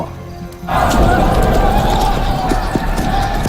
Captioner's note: deep rumble